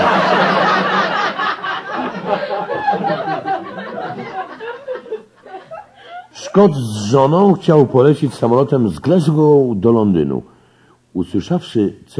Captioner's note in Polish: śmiech